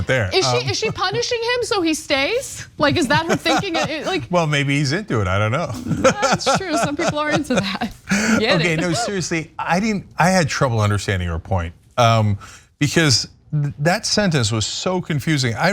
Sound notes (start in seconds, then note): 5.7 laugh